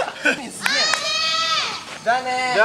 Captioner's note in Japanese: 少年たちの声